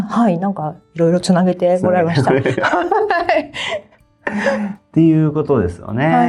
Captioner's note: laughs